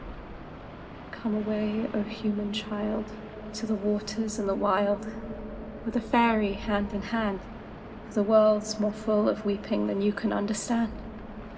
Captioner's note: echoing, strange